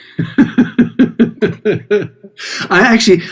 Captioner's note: both laughing